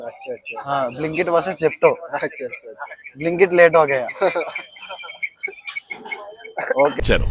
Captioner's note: laughter